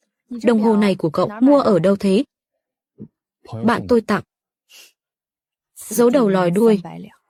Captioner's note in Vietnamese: khịt mũi